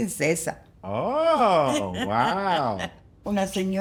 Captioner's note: speaks in foreign language; laughs; speaks in foreign language